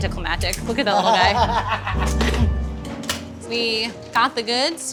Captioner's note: laughing